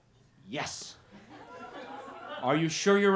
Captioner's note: laughter